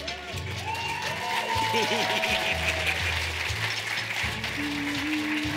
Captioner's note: audience laughing; audience cheering; gentle upbeat music